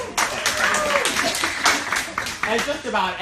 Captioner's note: cheering and applauding